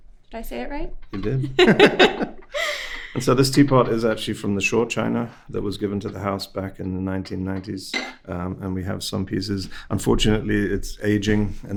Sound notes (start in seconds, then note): 1.2 both laughing